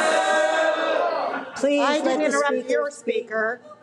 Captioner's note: audience boo